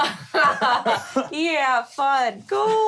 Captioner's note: laughing